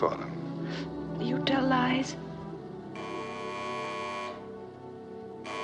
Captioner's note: phone buzzing